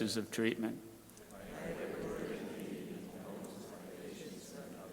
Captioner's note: crowd repeating